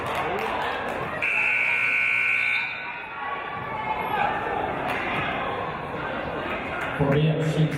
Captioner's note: buzzer; referee's whistle